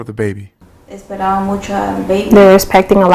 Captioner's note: speaking spanish